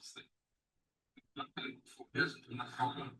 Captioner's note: audio dropping